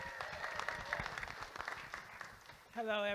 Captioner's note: audience applauding